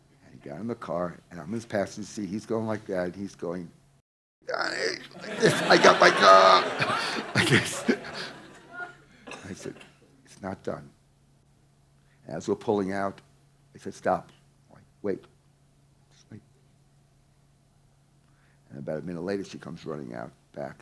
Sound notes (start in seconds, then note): 4.5 laughs; 7.1 audience laughing